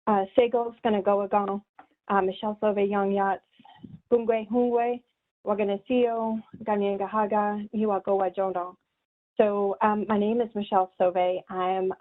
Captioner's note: speaking in native language